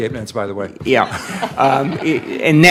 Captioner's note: laughing